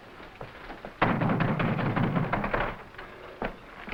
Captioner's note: footsteps echoing